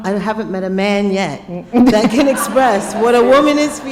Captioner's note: laughter